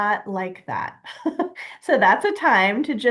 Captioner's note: giggling